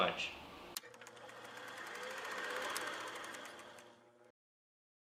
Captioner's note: film reel clicking